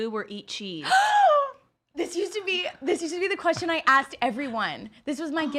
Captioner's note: gasps